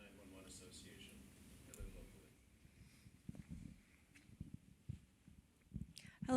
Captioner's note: away from mic